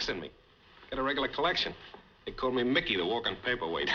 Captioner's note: chuckles